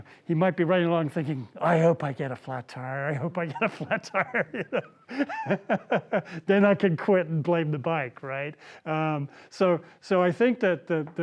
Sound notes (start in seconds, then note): 5.8 laughs